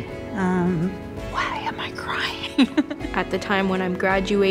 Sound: whispers

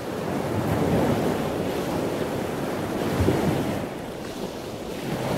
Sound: waves crashing

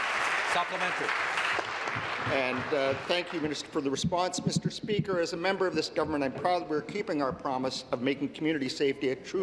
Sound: applause

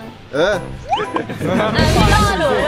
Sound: laughs

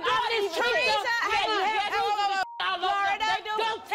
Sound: yelling

